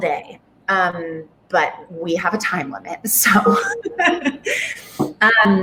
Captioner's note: laughs